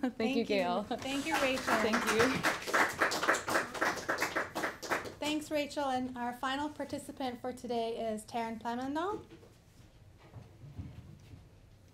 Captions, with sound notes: Thank you, Gail. Thank you, Rachel. [applause] Thanks, Rachel. And our final participant for today is Taran Plamondon.